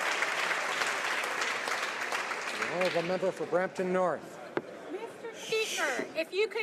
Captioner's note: applause